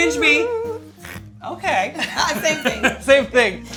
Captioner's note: laughs